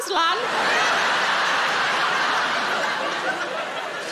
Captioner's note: audience laughing